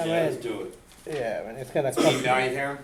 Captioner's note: voiceover